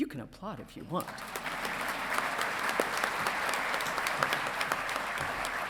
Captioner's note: audience clapping